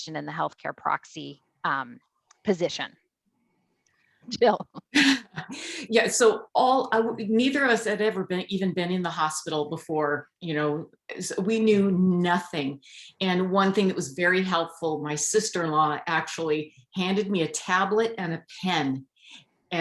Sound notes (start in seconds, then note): 5.2 laughs